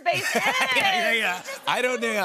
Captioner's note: laughter